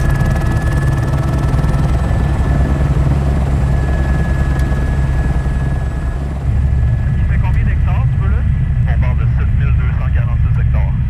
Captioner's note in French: moteur d'hélicoptère